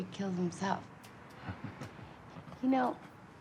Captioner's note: laughs